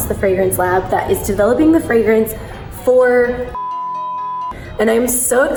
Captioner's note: beep